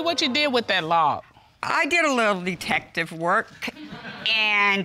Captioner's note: audience laughs